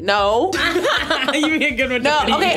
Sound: laughing

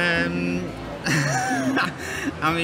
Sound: laughs

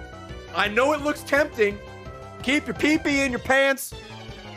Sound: none

